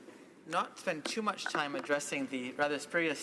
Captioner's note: speaking French